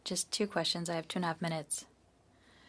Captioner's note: speaking in French